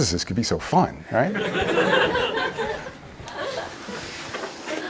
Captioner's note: laughter